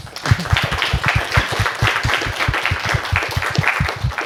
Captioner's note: applause